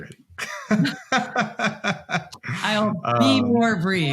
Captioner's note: both laughing